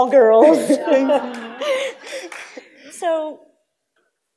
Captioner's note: laughing